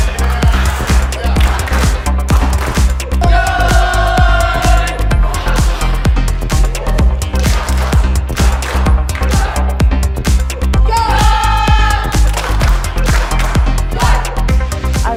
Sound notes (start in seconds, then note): 0.0 hand claps; 3.2 chants; 6.9 hand claps; 10.9 chants; 11.9 hand claps